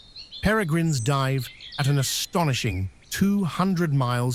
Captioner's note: birds chirping